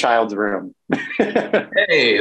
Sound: laughing

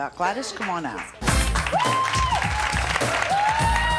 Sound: cheering

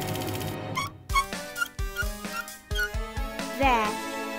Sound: cackling; squeaking

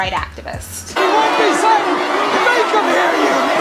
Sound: crowd yelling

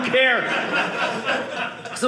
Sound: audience laughing

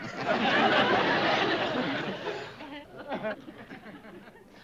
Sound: laughing

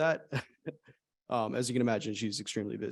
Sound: chuckles

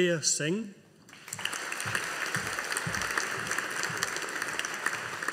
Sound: audience applauding

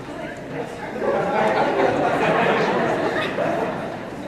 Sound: laughter

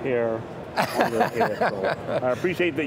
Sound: laughing

